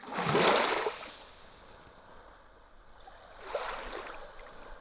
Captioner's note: water lapping on shore